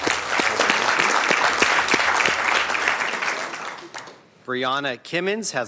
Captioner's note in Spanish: aplausos